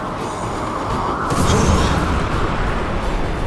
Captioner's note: wind blowing